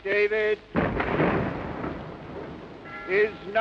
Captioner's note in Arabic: صوت المدافع